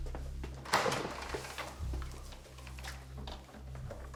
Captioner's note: door clattering